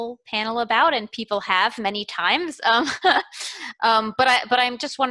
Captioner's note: chuckles